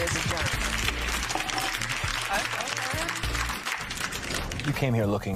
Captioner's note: applause